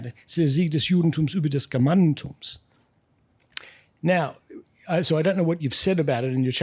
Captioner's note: speaking in foreign language